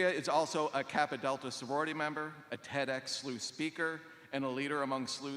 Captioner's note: none